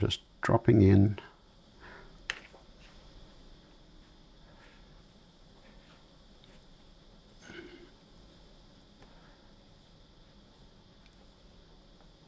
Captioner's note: silence